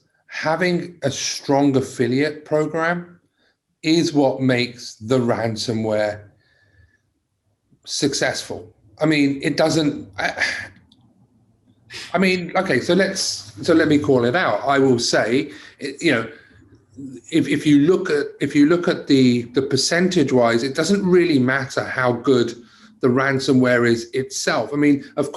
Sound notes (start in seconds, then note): 10.4 sighs